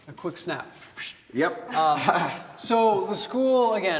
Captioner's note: chuckles